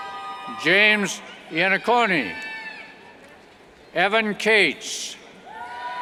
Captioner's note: cheers